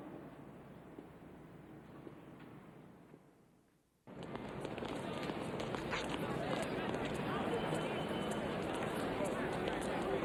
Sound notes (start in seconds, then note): 4.1 feet clacking; 4.3 people chattering